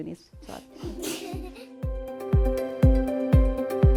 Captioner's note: laughter